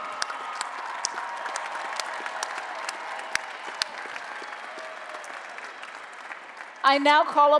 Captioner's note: applause and Cheering